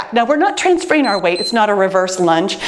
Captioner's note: timer beeps